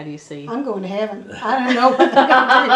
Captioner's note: laughter